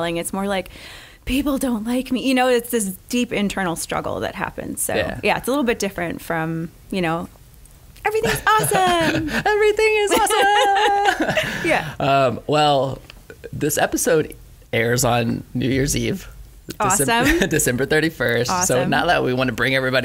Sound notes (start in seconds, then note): 9.8 laughing